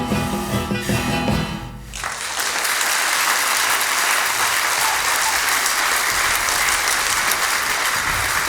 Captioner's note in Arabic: توقف الموسيقى. تصفيق